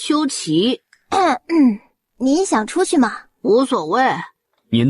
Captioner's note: coughs